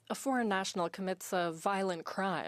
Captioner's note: speaking French